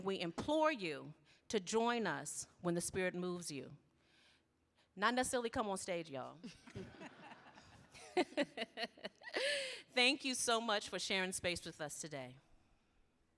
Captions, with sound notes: and we implore you to join us when the spirit moves. You not necessarily come on stage, y'all. (audience laughs) (laughs) Thank you so much for sharing space with us today.